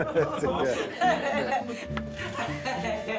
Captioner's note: laughter